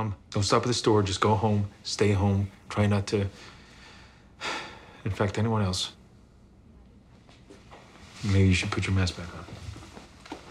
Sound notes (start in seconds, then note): 4.4 sighs